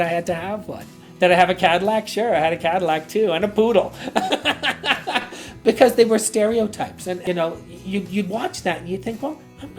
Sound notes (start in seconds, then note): 4.0 laughs